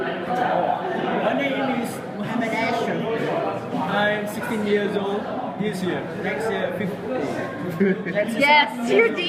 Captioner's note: laughter